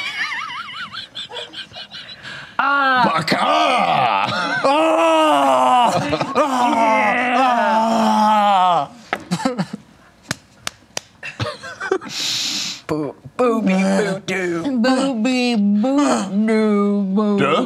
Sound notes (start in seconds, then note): 0.0 laughter; 4.7 yelling